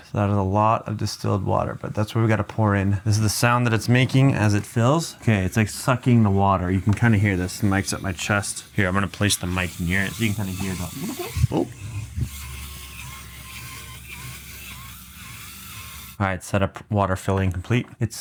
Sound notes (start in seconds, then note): 11.4 water gurgling